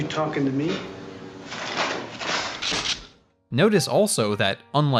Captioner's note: mechanical swipes, gun clicks